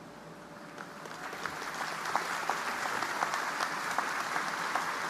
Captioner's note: audience applauding